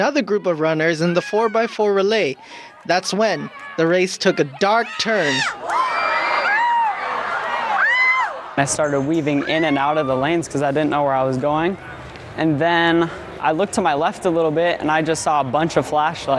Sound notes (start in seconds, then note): 5.3 crowd noise